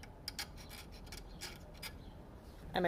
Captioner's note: metal file scratching